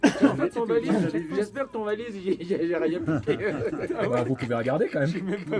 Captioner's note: laughs